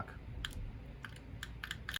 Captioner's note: clicking mouse